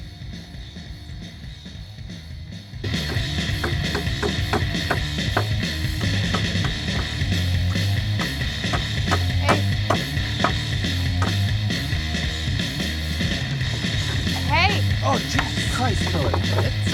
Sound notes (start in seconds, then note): 6.2 hammering